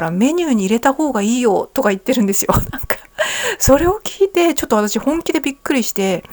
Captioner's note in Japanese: 笑い